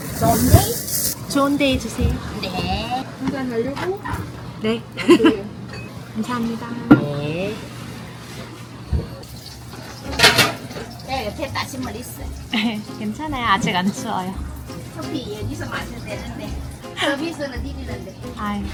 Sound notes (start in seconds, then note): 5.0 neighboring boss chuckling